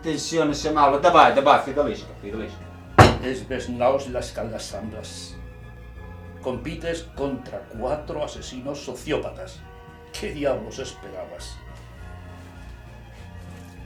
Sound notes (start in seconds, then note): 3.5 in yelhorussian